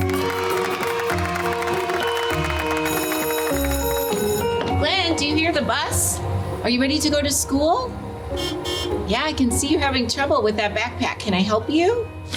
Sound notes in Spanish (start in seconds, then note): 0.0 la audiencia aplaude; 0.0 los niños aplauden; 8.3 bocinazos de autobús